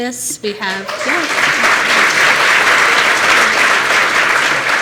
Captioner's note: applause